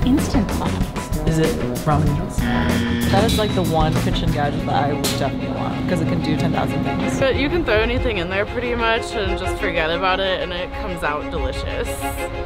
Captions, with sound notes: - An instant pot. - Is it ramen noodles? (buzzer beeps) - That is like the one kitchen gadget that I would definitely want 'cause it can do 10,000 things. - But you can throw anything in there pretty much and just forget about it and it comes out delicious.